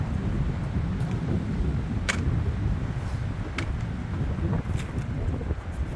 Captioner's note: wind howling